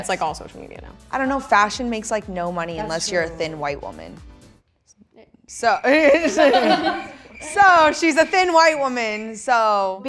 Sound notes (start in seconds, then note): 5.6 crickets chirping; 5.8 laughing